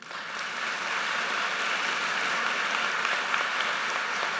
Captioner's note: audience applauds